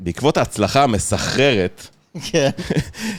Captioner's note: laughter